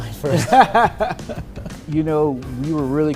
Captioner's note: laughs